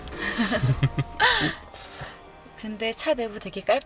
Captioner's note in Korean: 웃음